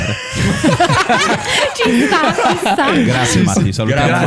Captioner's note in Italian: laughter